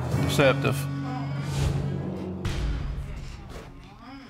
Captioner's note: audience exclaiming